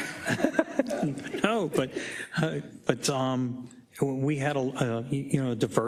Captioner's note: laugh